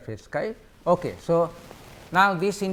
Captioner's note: static